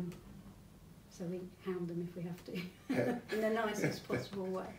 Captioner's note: both laugh